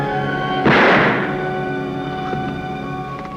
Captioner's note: gunshot